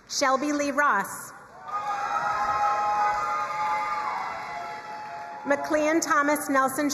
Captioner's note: crowd cheering and applauding